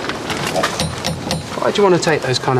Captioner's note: door knocking